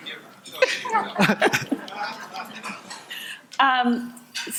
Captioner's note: audience laughing